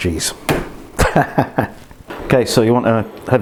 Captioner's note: laughs